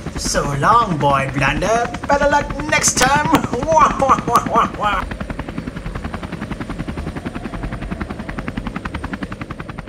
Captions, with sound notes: So long, Boy Blunder! Better luck next time! Wha-wha-wha-wha-wha! [Helicopter sounds]